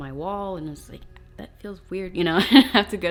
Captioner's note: laughs